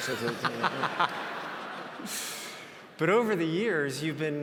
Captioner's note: audience laughs